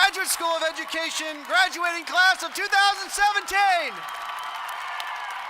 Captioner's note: applause